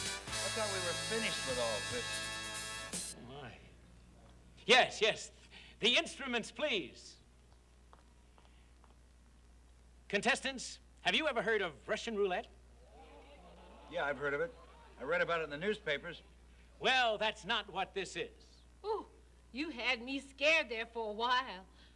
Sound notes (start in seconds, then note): 0.0 theme music; 7.8 footsteps; 12.8 audience murmurs